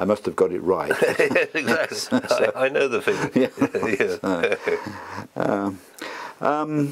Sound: laugh

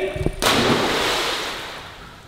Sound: splash

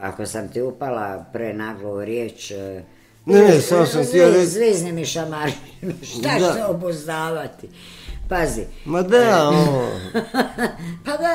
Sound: laughter

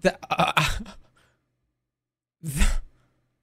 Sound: scoffs

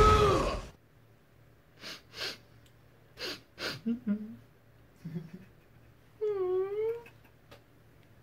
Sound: Sad violeta whimpers

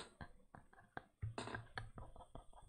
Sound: laughs

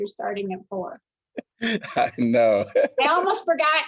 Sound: laughter

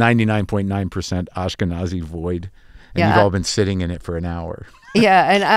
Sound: laughter

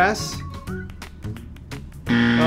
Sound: alarm buzzing

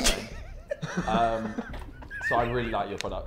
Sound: Sidemen laughing

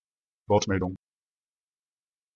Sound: fast Pronunciation

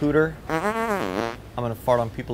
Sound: farting noise

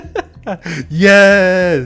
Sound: laughs

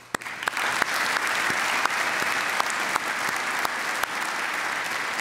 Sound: applause

